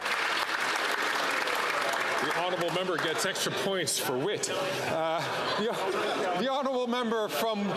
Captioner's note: cheering and Applause